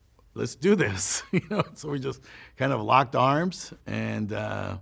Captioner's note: chuckles